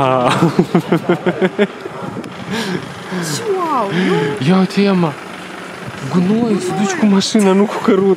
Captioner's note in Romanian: Râsete